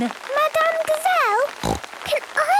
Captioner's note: snorting